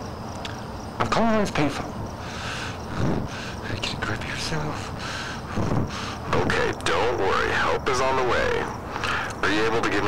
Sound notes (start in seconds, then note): 2.1 hyperventilating; 4.1 muttering; 4.7 hyperventilating